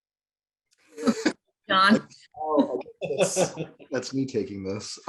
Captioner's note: men laughing